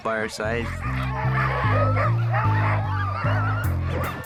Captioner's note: dogs barking; hip-hop music